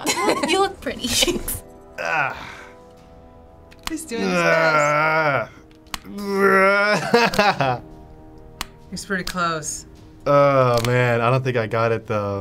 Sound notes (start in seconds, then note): 4.1 groans; 6.3 laughing